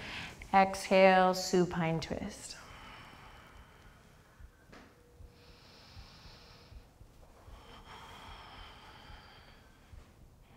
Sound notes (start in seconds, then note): 5.5 deep breathing